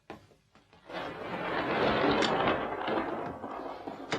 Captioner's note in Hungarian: mennydörgés